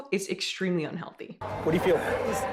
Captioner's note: crowd bustling